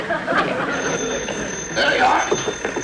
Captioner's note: phone Ringing